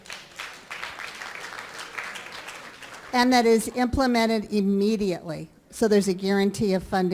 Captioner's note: applause